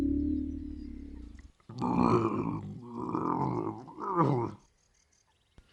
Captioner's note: grunting